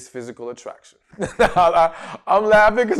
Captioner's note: laughs